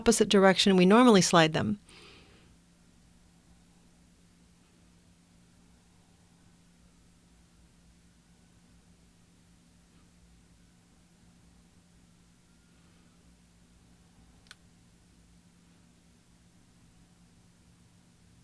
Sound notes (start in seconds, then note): 4.4 silence